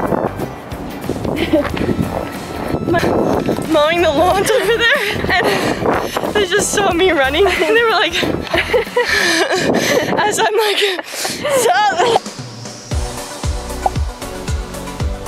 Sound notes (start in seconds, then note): 0.2 upbeat music; 7.4 laughing; 11.5 upbeat music